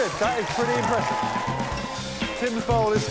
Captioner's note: applause